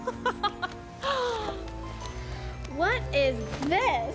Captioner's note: laughing